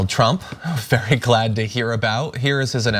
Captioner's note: laugh